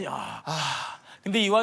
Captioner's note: sighing